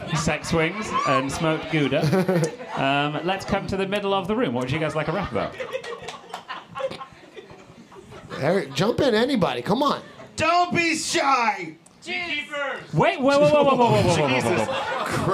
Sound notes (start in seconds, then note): 7.9 audience giggling